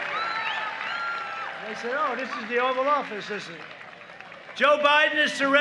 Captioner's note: applause